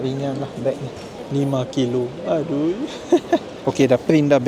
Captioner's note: laugh